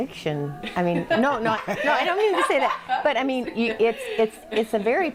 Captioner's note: laughing